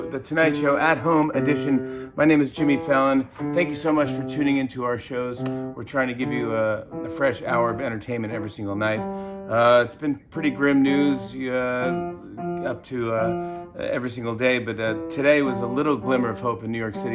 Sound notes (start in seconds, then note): none